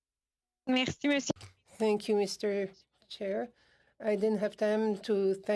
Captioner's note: speaking French